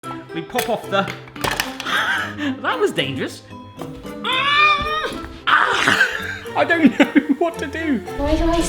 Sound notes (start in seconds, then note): 1.0 clattering; 1.9 he laughs; 5.5 he screams